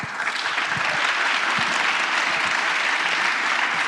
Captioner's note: applause